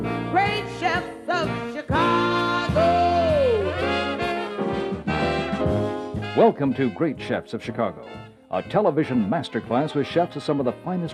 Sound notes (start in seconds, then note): 6.4 voiceover